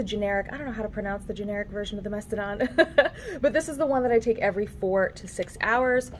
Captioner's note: laughs